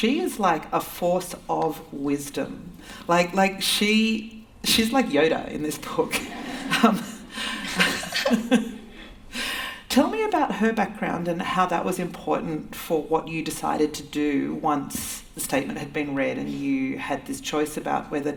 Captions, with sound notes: She is like a force of wisdom. Like she's like Yoda in this book. [ Laughter ] Tell me about her background and how that was important for what you decided to do once the statement had been read and you had this choice about whether